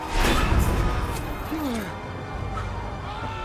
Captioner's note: grunts